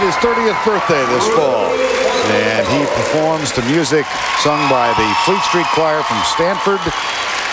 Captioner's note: crowd Cheering